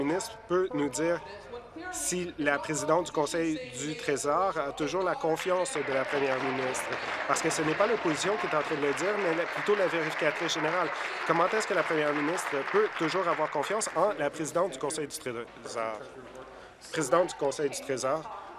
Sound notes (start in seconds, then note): 10.1 applause